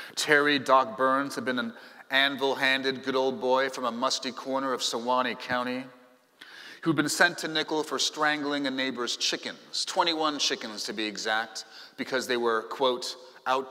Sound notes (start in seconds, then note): none